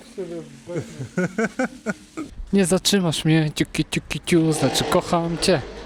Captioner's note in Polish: śmiech